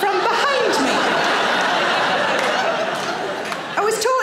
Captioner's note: audience laughing